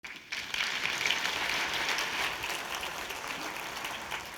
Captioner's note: audience applauding